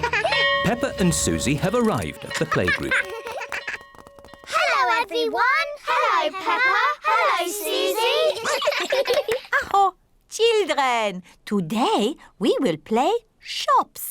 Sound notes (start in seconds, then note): 8.1 all laugh; 8.9 claps hands; 9.3 exclaims